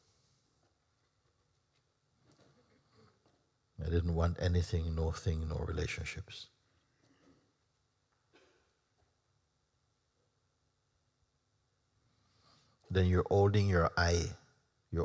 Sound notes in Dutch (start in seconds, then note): 0.0 stilte; 9.3 stilte